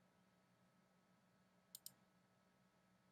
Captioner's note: clicking sound